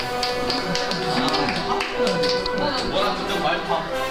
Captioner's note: Applause from PRO Team